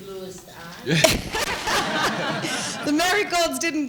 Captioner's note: laughter